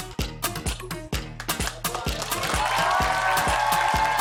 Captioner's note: cheers and applause